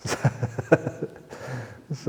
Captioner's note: chuckle